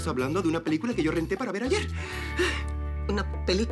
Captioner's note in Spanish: none